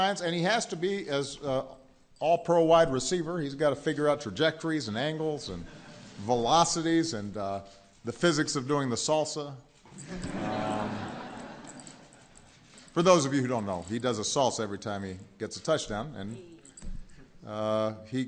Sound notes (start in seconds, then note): 11.7 laughter